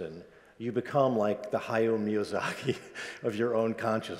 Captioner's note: chuckles